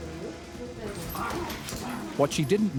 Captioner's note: dogs growling